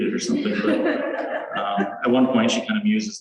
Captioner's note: laughter